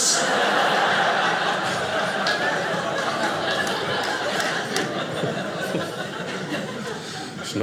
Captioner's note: audience laughing